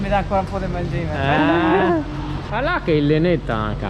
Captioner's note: laugh